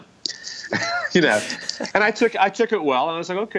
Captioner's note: laughs